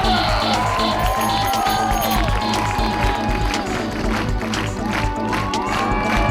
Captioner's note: audience cheering and applauding